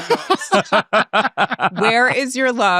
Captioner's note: all laughing